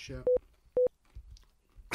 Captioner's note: beep boop